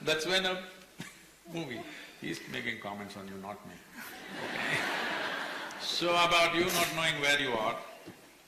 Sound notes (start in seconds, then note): 0.9 laughs; 4.1 laughter